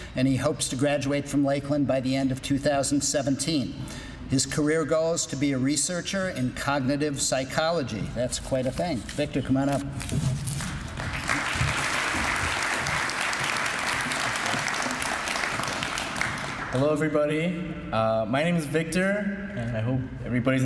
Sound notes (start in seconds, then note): 10.5 applause